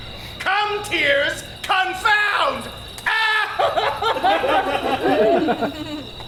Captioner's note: cries exaggeratedly